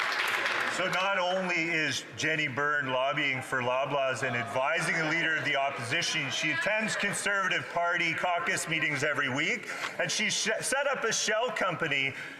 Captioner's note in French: voix de l'interprète